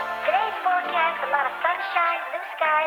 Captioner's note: child's Voice